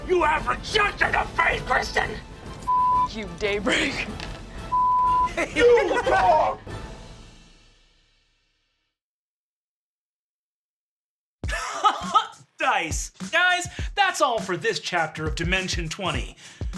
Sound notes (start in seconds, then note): 6.5 dramatic music; 11.5 laughs